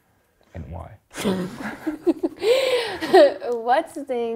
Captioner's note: laughs